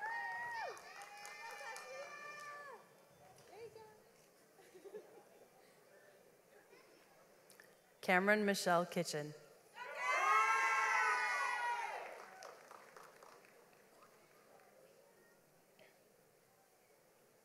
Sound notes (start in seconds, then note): 4.6 laughs; 9.8 audience applauds